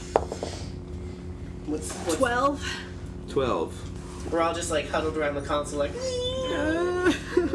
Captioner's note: squeals